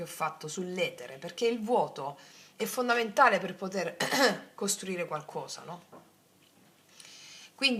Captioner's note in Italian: schiarire la voce